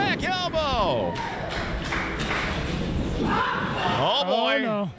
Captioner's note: crowd clapping